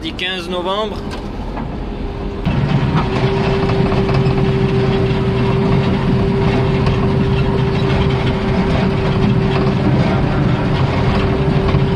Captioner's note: sound of Bulldozer